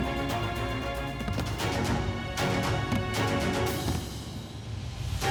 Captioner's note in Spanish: Ruido al caer por la escalera